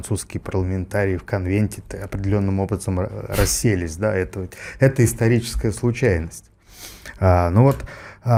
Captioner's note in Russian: фыркает